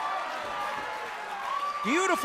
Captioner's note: cheers & applause